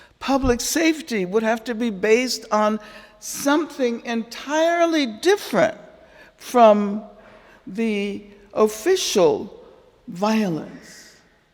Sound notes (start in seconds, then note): none